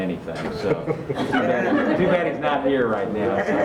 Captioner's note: group Laughs